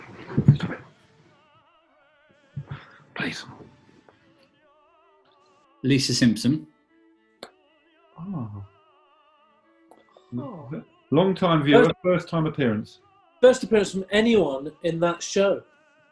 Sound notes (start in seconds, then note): 0.3 whispers